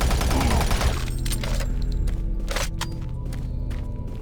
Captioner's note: gunshots